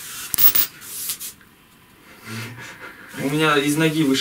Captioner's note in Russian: треск